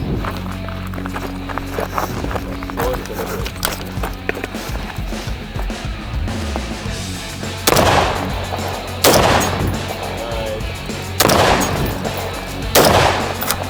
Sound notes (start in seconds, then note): 0.2 rock music; 7.4 gun bangs